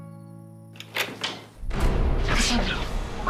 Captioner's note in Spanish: Sonido al abrir la puerta